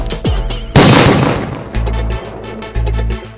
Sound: gunshot

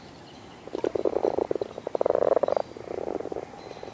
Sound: croaking

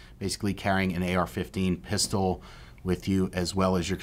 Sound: none

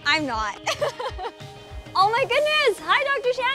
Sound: laughs

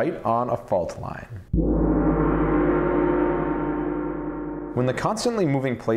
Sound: gong

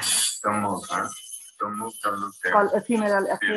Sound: man speaking in foreign language

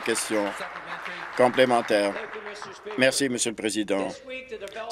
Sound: applause

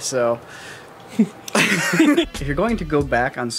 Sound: laughs

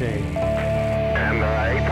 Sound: loud Beep

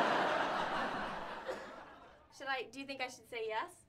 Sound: audience laughter

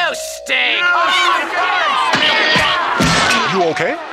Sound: crowd angry shouting

